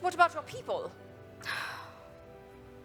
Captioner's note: sighs